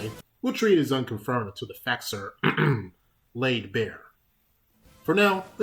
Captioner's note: ahem